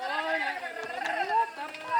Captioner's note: yelling